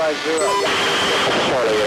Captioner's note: signal distortion sound